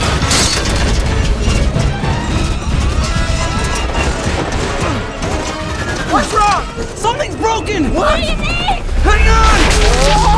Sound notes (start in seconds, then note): 3.2 alarm blaring